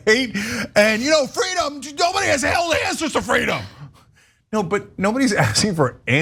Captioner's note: laugh